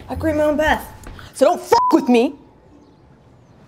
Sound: beep

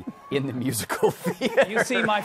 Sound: laughing

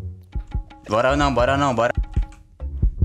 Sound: heart beating

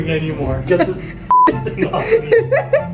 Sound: beep

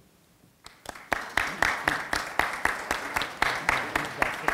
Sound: audience applauding

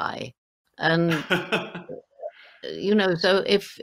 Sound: laughing

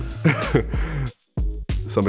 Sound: chuckles

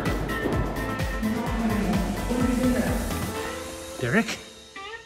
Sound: mumbles

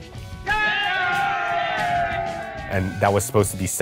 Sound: crowd cheering

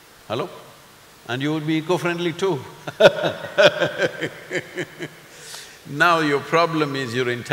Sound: laughs

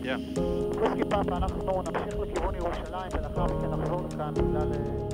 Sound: foreign Language

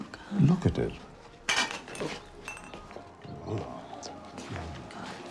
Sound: glass clinking

